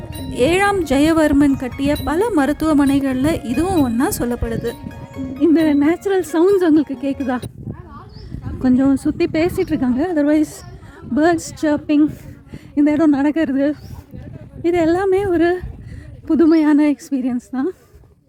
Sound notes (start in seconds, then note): 8.2 sorry for the background noise of people around